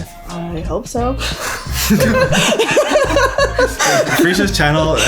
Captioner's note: laughing